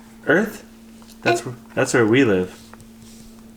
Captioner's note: murmurs